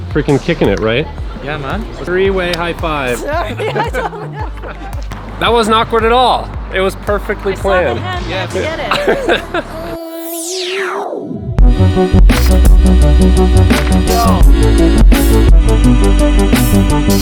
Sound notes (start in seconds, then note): 2.9 laughing; 10.8 club music